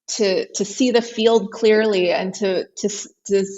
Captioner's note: none